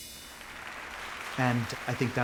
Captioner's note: instrumental music; audience applauding